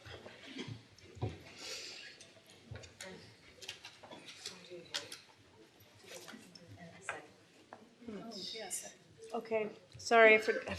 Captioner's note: shuffling